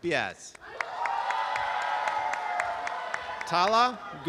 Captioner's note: applause and cheering